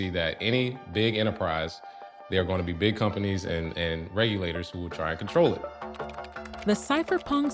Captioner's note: none